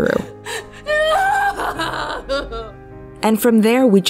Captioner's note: Nell crying